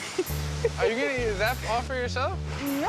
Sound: laughs

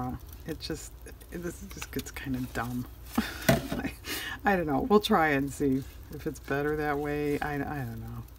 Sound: laughs

